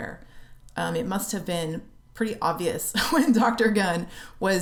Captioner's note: laughter